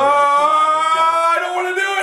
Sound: shouting

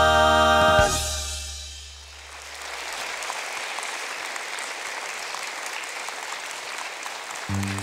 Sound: applause

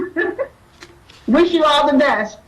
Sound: laughs

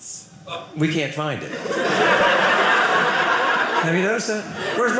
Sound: audience laughing

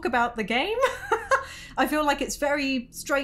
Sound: laughing

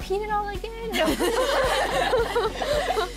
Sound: laughter

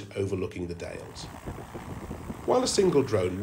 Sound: wind blowing, drone humming

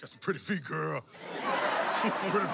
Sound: laughing

